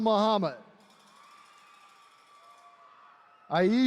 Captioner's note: attendees cheering